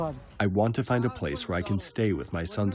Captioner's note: through translator